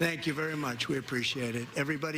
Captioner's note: cheers and applause